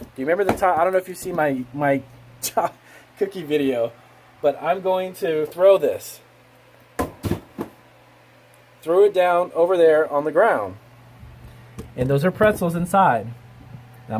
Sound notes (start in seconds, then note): 2.6 laughing; 7.3 banging